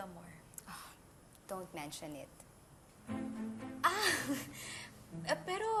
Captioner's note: uneasy laugh